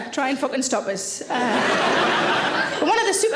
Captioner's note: audience laughing